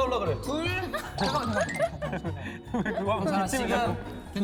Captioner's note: laughing